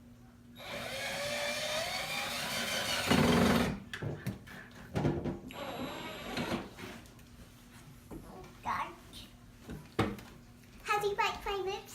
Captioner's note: sound of drill